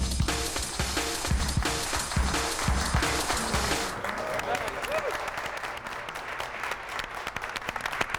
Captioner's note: applause and cheering